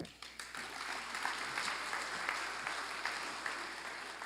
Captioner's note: applause